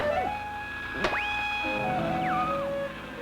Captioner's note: mysterious music; whistling